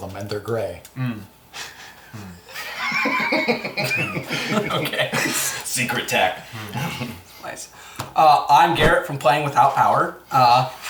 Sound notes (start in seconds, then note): 6.0 laughs